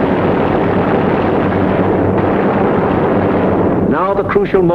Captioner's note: gunfire sounding